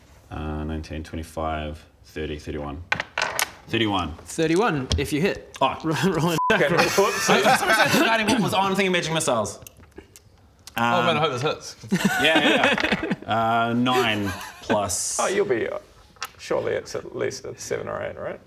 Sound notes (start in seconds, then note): 13.8 laughs